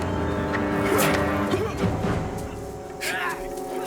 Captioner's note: grunts, Yells